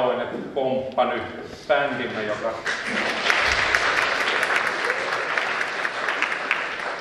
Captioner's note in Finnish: spontaanit aplodit